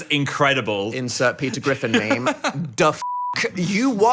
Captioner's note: laughs